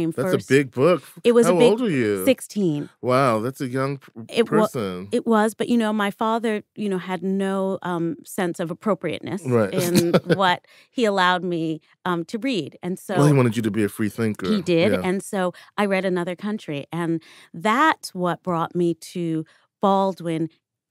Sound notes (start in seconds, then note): 9.5 chuckles